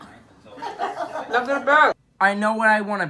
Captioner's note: amigos riendo